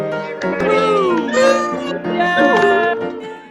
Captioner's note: upbeat music; all cheering